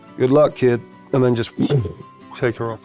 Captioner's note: imitates whoosh